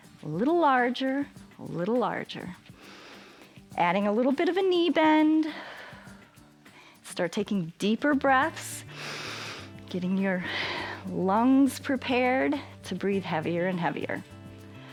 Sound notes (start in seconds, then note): 2.8 inhales; 6.3 exhales; 8.8 inhales